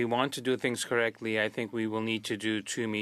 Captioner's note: speaking French